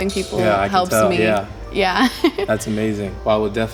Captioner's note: giggles